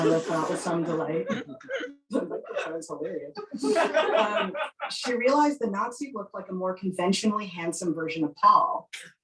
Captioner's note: laughing